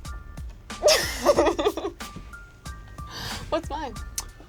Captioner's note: laughs